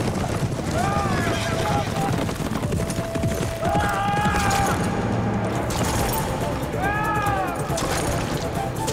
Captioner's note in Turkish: Bağırma sesleri; At nalı sesleri; Bağırma sesleri